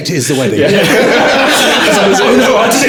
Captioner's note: laughing